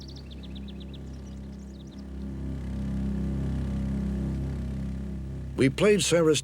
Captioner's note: bird song; low humming